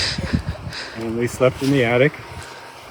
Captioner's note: laughing